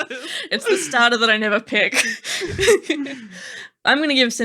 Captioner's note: laughing; laughing